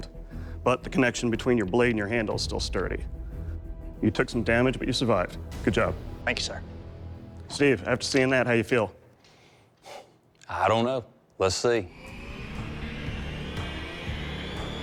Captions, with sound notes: But the connection between your blade and your handle is still sturdy. You took some damage, but you survived. -Good job. -Thank you, sir. Steve, after seeing that, how do you feel? [sighs] I don't know. Let's see. [intense music playing]